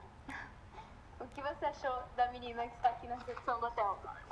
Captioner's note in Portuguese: risos